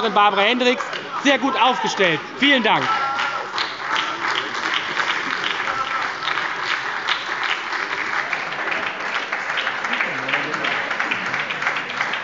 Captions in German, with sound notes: Barbara Hendricks sehr gut aufgestellt. – Vielen Dank. (Beifall bei der SPD)